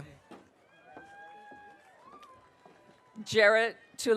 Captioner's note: audience cheering